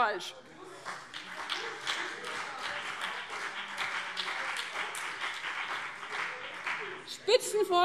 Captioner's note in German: Beifall CDU und BÜNDNIS 90/DIE GRÜNEN - Zurufe Freie Demokraten